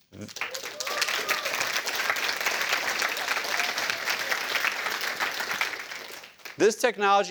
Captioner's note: cheers